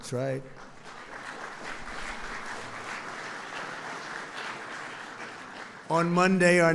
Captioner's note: applause